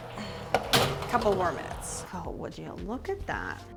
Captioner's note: whirring sounds; metal clanking sounds